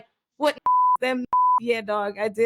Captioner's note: beep